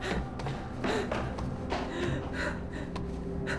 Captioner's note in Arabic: تنفس ثقيل